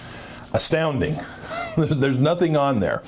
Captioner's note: chuckles